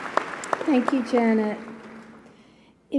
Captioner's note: applause